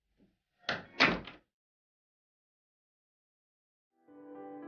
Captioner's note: door closes